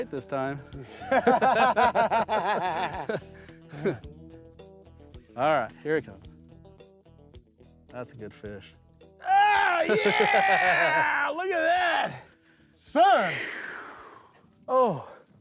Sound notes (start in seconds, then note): 0.9 laughter